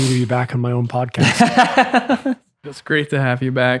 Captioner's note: laughing